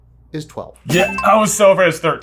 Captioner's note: ding